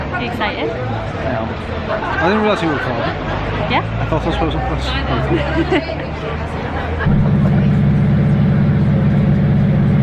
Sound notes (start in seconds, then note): 5.3 giggles